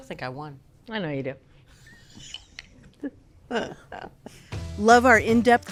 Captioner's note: laughs